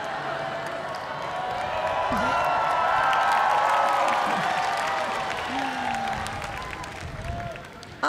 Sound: cheers and applause

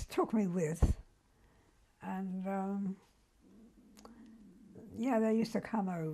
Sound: pauses for 3 seconds

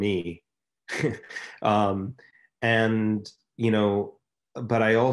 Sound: chuckles softly

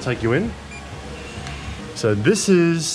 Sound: door beeping

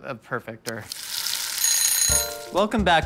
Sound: timer ringing

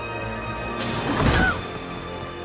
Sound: Sora groans

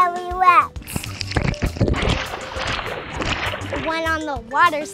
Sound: splashing

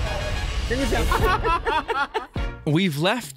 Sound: men laughing

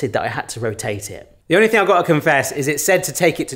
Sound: none

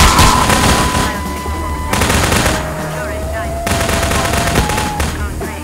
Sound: radio, faintly

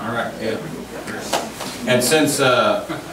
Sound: overlapping chattering

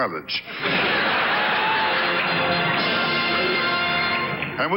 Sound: audience laughs; orchestra riffs

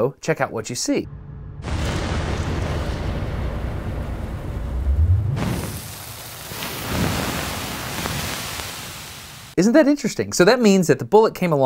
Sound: slowMo Whooshing Noises

